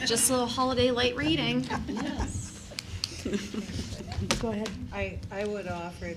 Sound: laughter

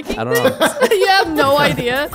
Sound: everyone laughing amusingly

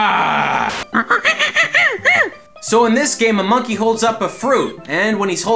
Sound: monkey noises

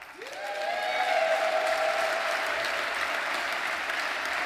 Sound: audience cheers; audience applauds

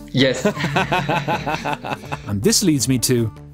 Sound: laughs

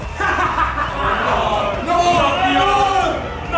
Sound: evil laughing

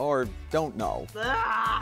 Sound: groaning

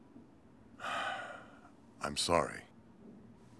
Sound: sighing

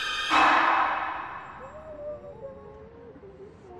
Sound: indistinct chatter

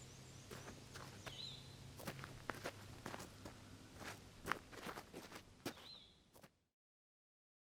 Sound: sound of walking

